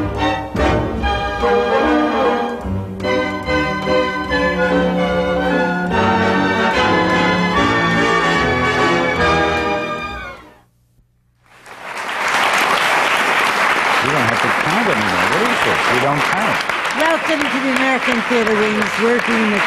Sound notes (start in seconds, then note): 11.5 applause